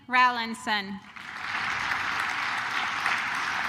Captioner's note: claps